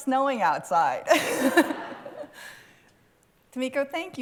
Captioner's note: laughter